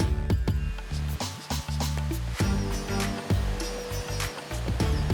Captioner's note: raindrops pattering